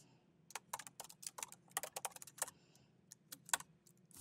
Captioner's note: keyboard clanking